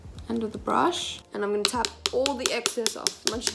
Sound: tapping

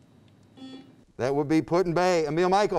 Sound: buzzer beeps

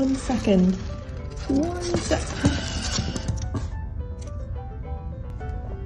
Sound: Lyra nails scratching in protest

